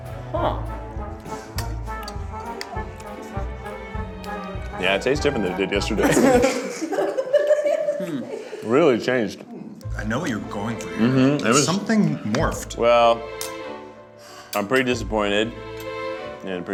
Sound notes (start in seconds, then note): 5.9 laughs